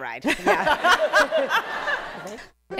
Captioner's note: laughter